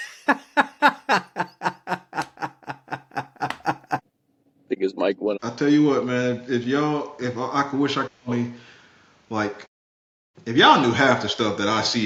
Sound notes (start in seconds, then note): 3.0 laughing